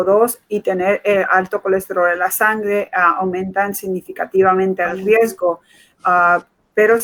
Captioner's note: speaking in Foreign Language